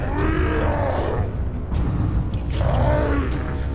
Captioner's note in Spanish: Rugidos